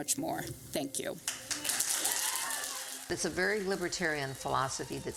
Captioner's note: loud applause